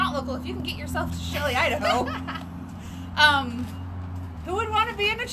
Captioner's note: laughs